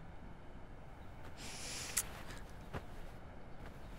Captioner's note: Shreya inhales